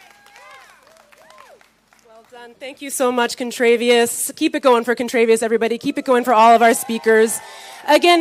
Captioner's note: cheering